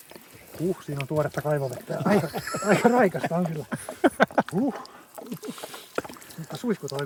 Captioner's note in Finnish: naurua